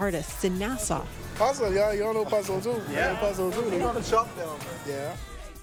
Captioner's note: speaks foreign language